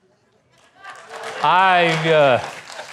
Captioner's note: clapping